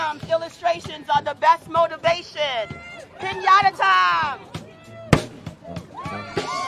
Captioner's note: cheering and applause